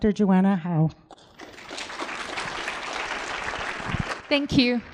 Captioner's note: applause